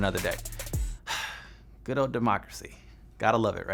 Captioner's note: sigh